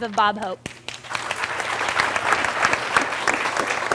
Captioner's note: applause